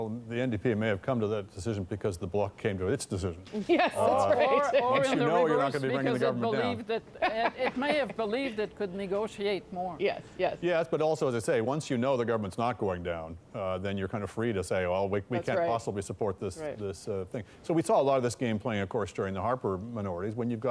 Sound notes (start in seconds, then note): 6.9 laughter